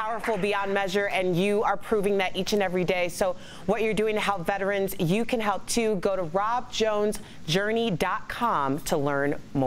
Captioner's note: applause